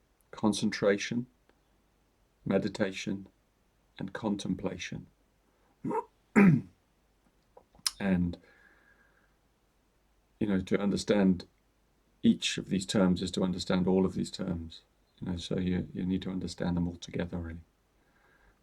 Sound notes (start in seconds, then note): 6.3 clears his throat